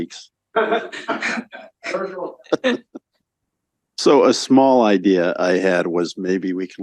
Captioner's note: laughter